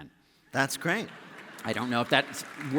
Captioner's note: applause